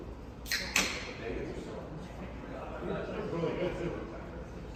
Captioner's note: people chatting in distance; soda can opens